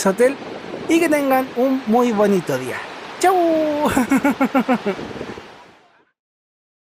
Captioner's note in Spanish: risas